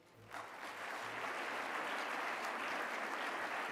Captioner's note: applause